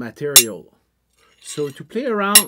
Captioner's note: metal sounds